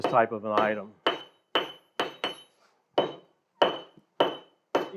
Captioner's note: metal clangs